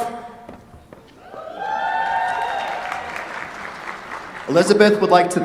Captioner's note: cheers, applause